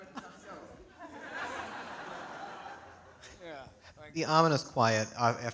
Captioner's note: audience laughing